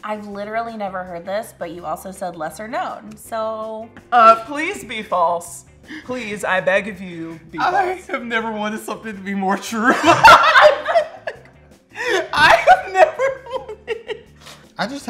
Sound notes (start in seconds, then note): 10.1 both laugh; 12.0 laughs